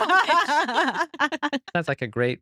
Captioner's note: laughing